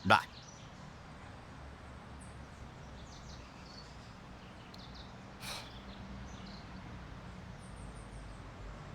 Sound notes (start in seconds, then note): 2.1 birds chirping; 5.4 Chief Pratt sighing